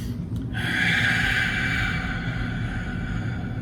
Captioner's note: inhales; exhales